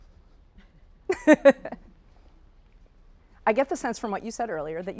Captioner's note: laughing